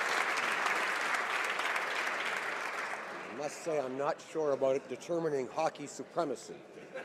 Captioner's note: applause